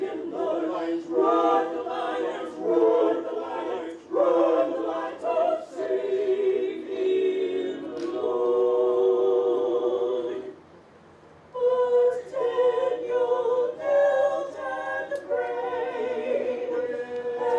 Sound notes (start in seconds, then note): none